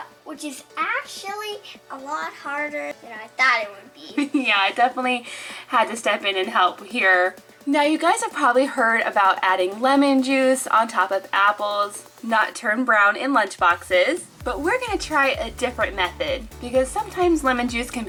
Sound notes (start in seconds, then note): 4.1 chuckles